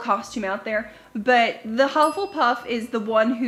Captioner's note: dings